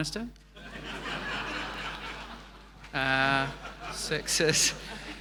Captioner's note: audience laughing